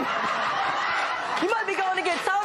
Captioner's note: laughter and applause